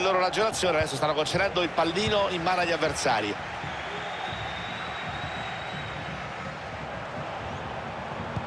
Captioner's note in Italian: Applauso